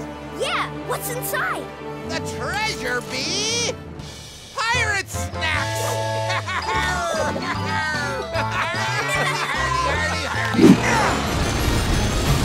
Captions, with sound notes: Yeah, what's inside? The treasure be... pirate snacks! [laughing]